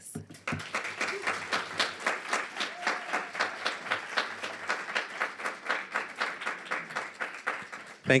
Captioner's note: applause